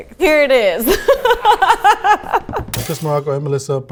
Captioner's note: laughing